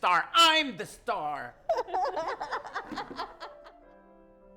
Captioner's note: laughter